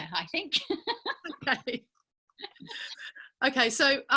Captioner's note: laughing